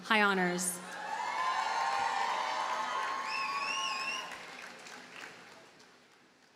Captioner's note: audience cheers and applauds